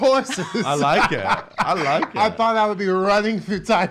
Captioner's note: laughs